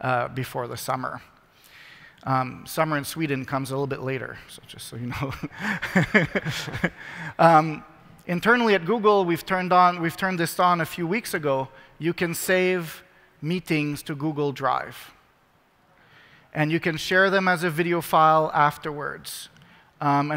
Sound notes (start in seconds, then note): 5.4 laughs